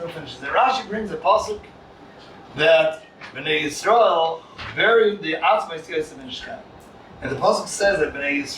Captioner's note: Hebrew